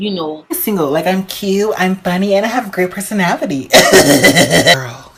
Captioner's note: laughs